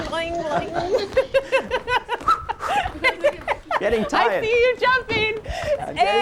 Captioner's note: laughter; laughter